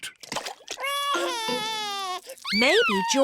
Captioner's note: cries